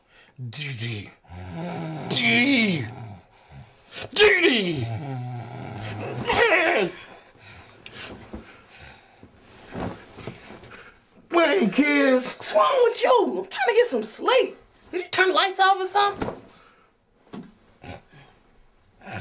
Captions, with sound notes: - DeDe. (snoring) DeDe. - What's wrong with you? I'm trying to get some sleep. Turn the lights off or something.